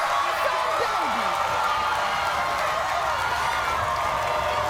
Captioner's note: audience cheers